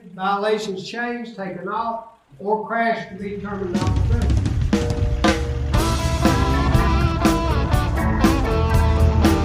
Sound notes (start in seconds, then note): 3.2 truck engine revs; 3.4 upbeat rock music